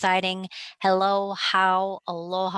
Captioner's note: speaking native language